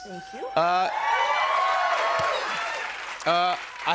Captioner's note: cheers and applause